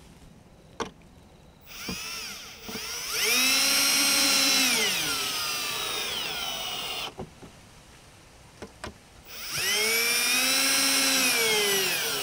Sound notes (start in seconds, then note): 1.6 drill whirring